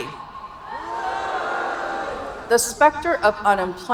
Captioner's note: audience booing